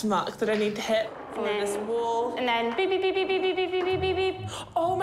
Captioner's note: imitates crossing alarm